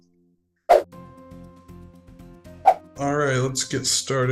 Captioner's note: fast swooshing sound